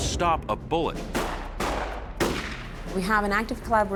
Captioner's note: rifle firing